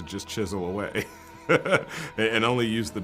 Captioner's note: laughing